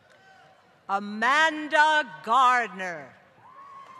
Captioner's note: applause